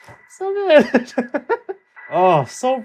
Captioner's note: laughs